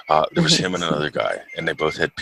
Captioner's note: laughs